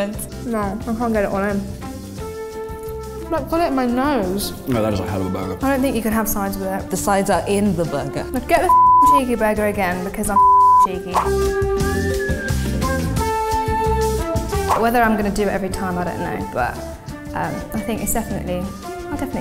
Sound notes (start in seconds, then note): 10.3 beeping; 11.1 lively music